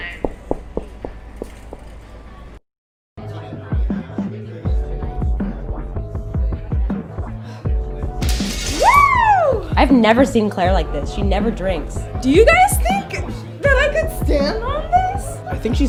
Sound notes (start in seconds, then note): 0.1 running footsteps; 3.3 party Music; 8.2 crash